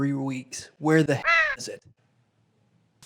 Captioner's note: bird squawks